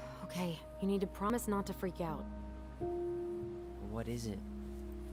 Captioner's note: sighs